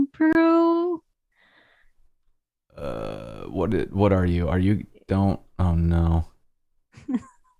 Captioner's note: laughter